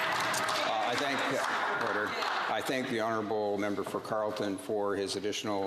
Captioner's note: some Applause